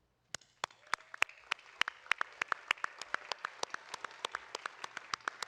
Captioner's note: audience applauding